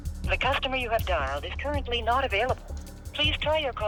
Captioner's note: voicemail